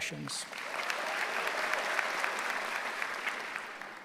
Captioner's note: applause